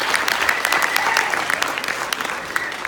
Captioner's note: clapping and Cheering